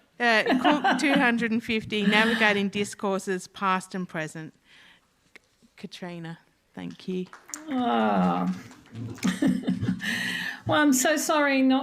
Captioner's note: applause